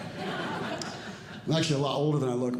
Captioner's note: audience Laughing